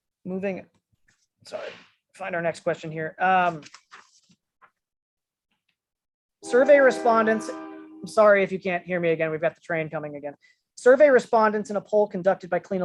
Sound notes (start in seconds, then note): 3.4 paper rustling